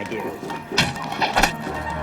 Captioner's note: arrow striking